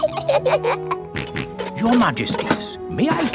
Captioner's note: both giggle; snorts